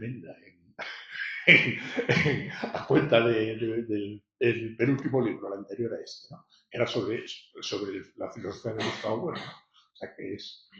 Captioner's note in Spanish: risas